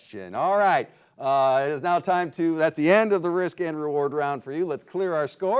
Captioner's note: none